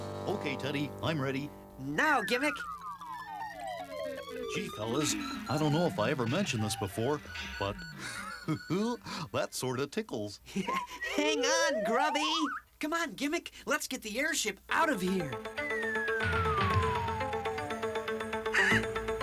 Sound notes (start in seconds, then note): 1.3 beeping; 6.6 chuckles; 9.0 Teddy chuckles; 16.6 chuckles